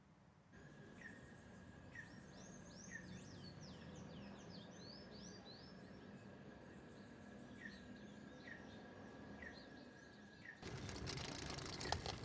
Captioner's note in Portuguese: canto de pássaros